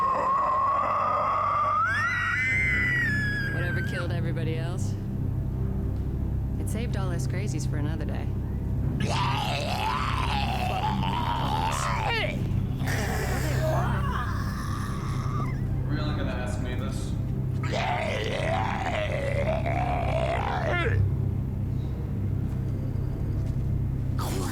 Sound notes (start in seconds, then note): 10.1 uneasy music; 15.8 zombie doctor screeching